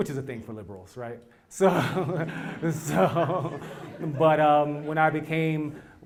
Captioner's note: laugh